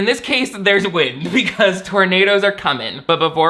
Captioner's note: laughs